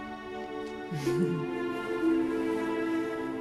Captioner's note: soft chuckle